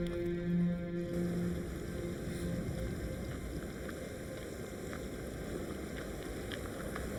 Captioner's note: wind blowing; water splashing